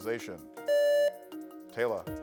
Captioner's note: buzzer beeps